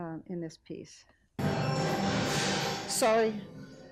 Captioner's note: audio crackles